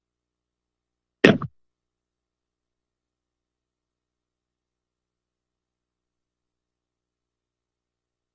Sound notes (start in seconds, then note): 2.9 silence